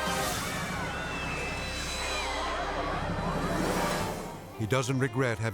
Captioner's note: bystanders screaming